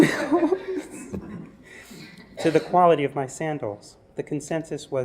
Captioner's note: laugh